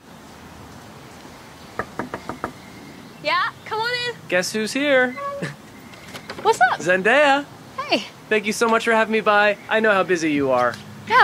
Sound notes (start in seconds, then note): 1.8 interviewer knocks